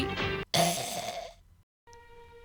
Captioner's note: blergh